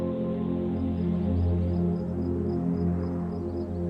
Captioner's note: birds chirping